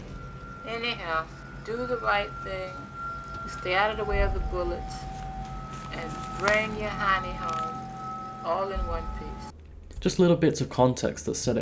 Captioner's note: tape recorder